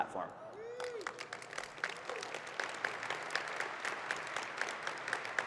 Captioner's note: audience cheering and clapping